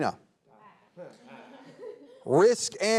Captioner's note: players chuckling